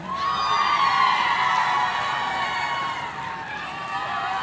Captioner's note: audience cheering